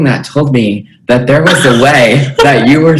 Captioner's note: laughter